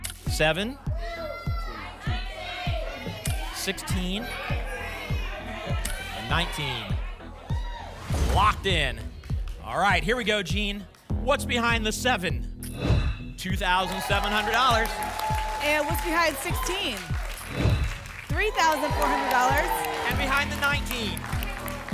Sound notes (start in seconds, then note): 0.0 audience shouting numbers; 12.7 whoosh; 14.5 applause and cheering; 17.4 whoosh